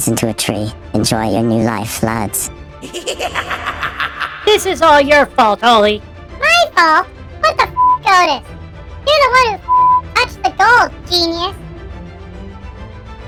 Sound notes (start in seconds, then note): 2.8 voiceover, frustrated; 5.8 voiceover, sarcastically